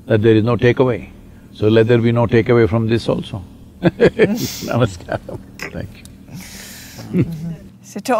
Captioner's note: laughs